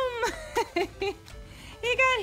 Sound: laughing

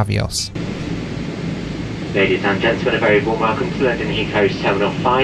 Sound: PA Announcement

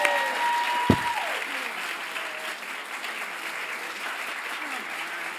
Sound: audience applauds loudly

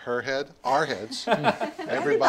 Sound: group laughs

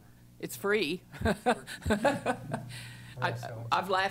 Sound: laughs

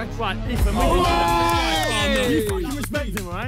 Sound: players cheer

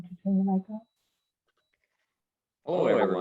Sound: speaking faintly off mic

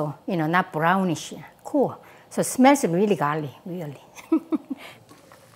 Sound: laughs

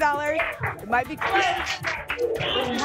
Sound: applause and cheering

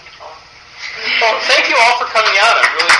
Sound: applause

